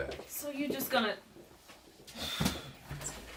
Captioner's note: sighs